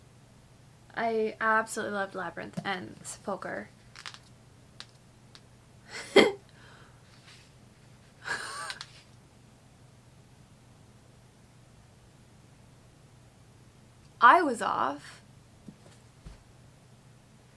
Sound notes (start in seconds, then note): 3.8 flipping pages; 8.1 shocked exhale